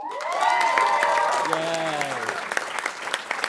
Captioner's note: audience cheering and applauding